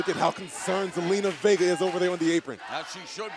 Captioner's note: crowd cheering